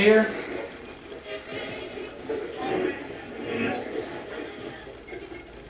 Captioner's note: radio channel changing